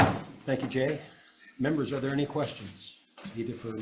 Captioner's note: door closes